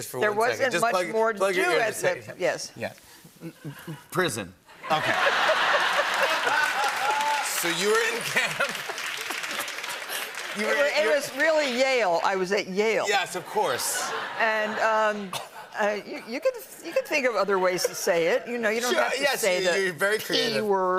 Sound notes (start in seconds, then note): 4.8 laughter and applause; 8.1 laughter